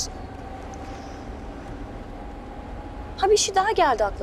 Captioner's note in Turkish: Trafik gürültüsü sesi